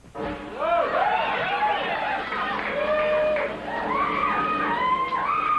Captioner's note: cheers and applause